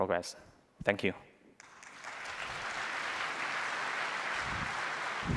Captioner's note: applause